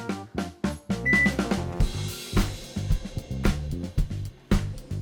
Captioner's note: bright upbeat music; microwave beeps and whirs